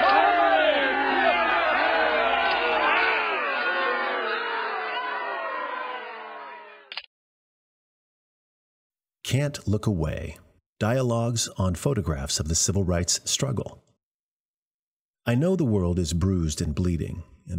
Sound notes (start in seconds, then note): 3.9 camera clicks; 3.9 crowd exclaiming loudly